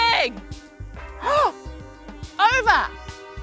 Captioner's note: she gasps